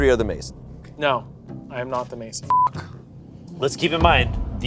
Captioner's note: beep